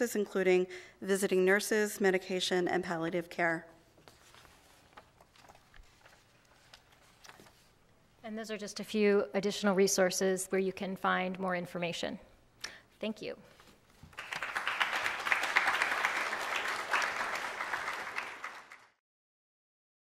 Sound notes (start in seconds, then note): 14.0 applause